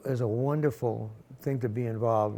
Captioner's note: none